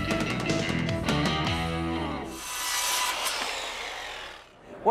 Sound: saw whirring

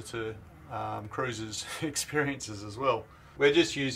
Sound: none

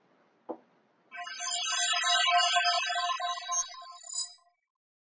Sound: electronic chiming

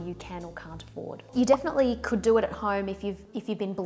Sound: text popping

